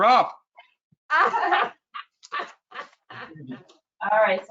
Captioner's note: laughing